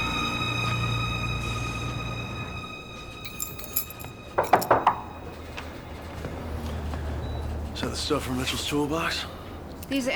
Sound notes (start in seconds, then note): 3.2 keys jingling; 4.3 knocking